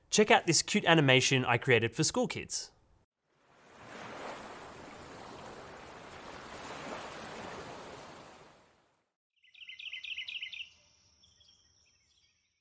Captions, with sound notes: Check out this cute animation I created for school kids. (water sloshing) (birds chirping)